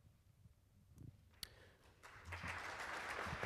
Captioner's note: applauding